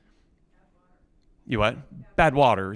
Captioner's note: student speaks softly